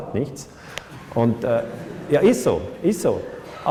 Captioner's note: laughter